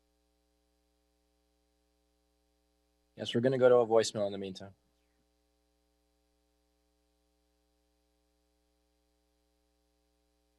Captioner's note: silence